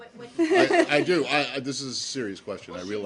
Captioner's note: laughter